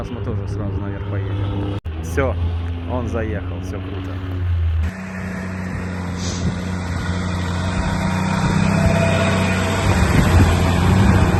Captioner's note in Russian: Звук рёва мотора